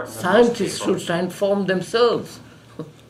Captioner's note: laughs